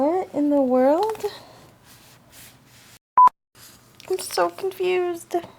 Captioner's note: blooper beep